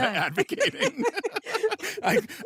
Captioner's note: all laugh